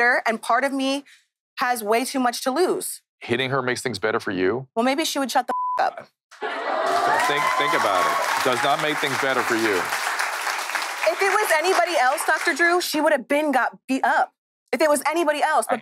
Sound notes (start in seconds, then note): 5.5 beep; 6.4 audience cheering